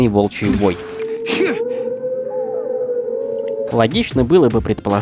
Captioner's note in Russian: Волчий вой